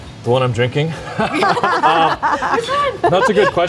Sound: laughing

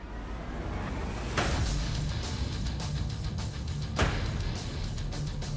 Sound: blade impacts

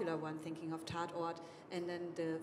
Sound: speaking foreign language

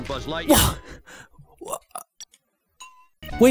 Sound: stutters

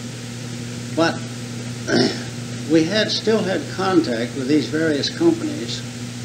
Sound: clears throat

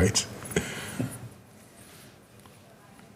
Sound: laughs

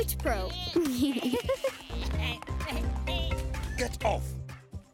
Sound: bleating; laughing

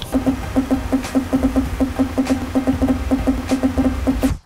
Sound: machine beeping

